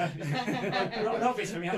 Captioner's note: all laugh